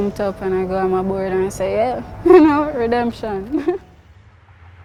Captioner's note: laughs